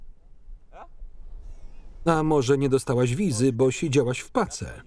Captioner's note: laughing